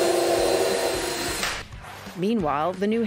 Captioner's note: drill whirring